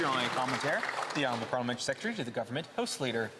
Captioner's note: some Applause